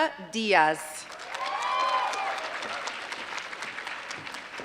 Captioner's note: applause